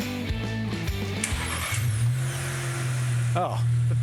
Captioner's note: car starts